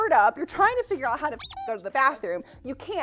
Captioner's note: squeak